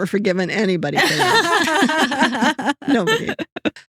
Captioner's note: laughing